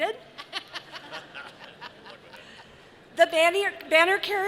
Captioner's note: audience laughing